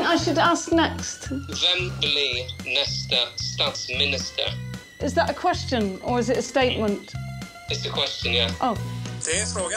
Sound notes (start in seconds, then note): 2.0 speaking Swedish